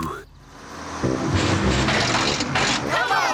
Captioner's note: bus splutters